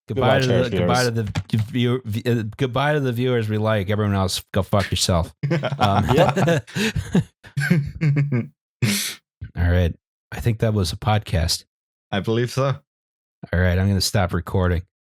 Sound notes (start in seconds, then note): 5.4 laughter